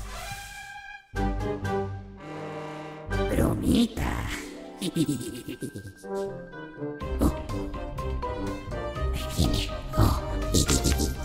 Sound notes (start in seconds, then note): 4.7 evil laugh; 10.4 laughts Again